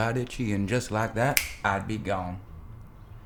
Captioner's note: fingers snap